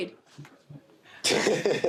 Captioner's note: laughs